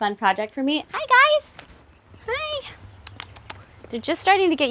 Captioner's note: clicks tongue